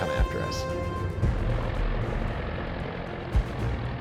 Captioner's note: plane buzzing